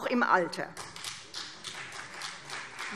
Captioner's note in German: Beifall CDU